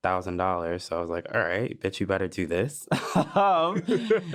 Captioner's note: chuckles